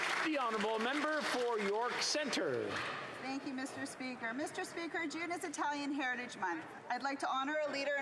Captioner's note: applause